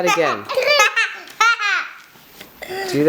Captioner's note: laughter